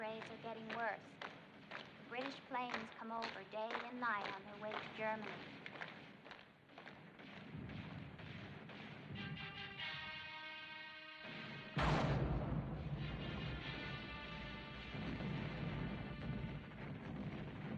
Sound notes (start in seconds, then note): 7.3 gunfire; 9.9 loud Explosion